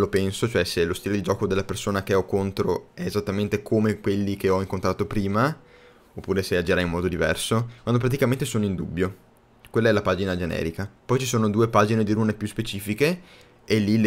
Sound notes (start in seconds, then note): 3.3 bla bla bla in italian